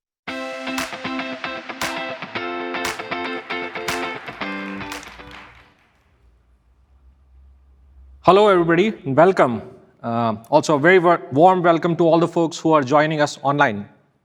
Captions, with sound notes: (bright upbeat music) (audience applauding) - Hello everybody, welcome. Also, a very warm welcome to all the folks who are joining us online.